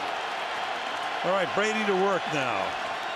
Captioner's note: cheering